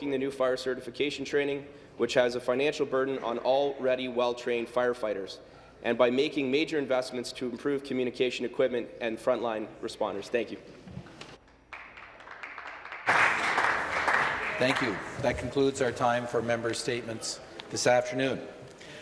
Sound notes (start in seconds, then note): 14.9 some Applause